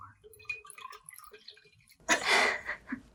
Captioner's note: water drips; both giggle